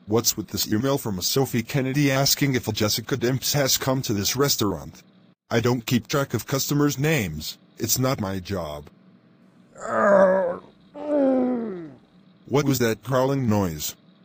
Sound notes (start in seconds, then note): 9.7 zombie gurgle